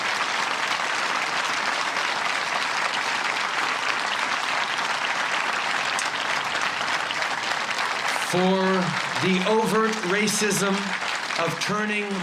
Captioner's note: cheers and applause